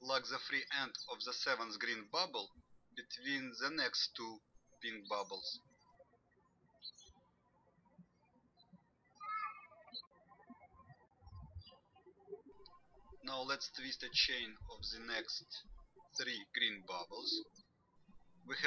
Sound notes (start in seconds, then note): 6.4 birds chirping